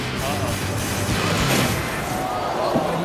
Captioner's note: audience oohing; waves splashes